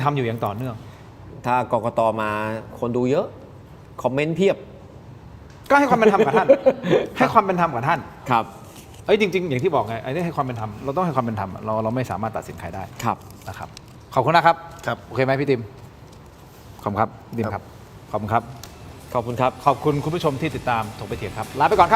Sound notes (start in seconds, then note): 5.9 laughter